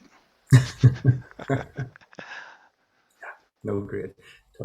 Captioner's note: both laughing